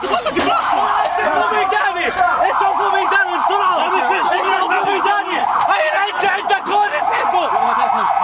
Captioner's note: frantic yelling over sirens